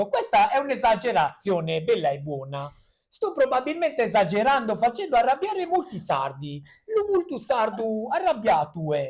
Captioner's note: speaks in Sardinian accent